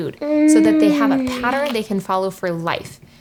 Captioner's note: kid moaning with delight